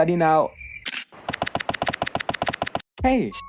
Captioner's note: Epic Mr Krabs walking leaving sound effects